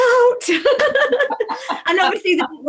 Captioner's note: laughs